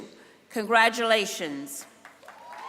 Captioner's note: applause